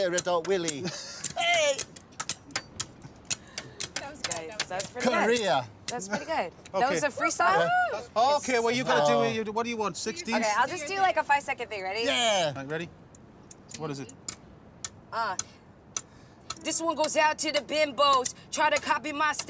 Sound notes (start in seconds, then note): 0.8 chuckles; 7.2 whooping